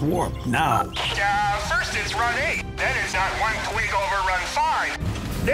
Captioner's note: Engineer Joe on loudspeaker